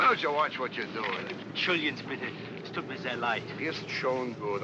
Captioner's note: apologizing in German; speaking kindly in German